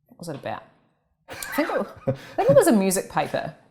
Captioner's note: laughs